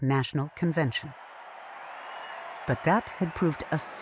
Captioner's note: crowd cheering